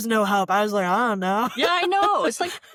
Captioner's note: laughter